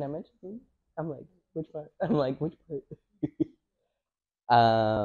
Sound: laughs

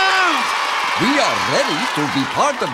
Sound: cheering

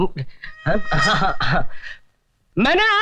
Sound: stammering

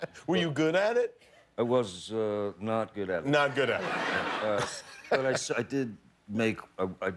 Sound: laughter

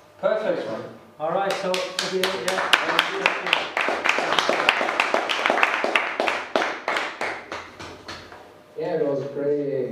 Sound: applause

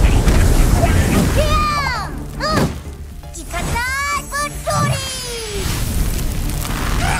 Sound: yells

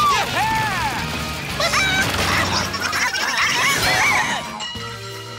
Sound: squawking

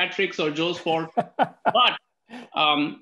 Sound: laughs

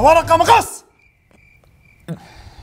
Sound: cricket noise

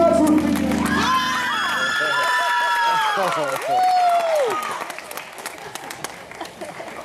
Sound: applause

